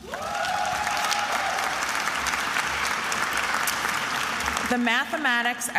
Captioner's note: attendees applauding and cheering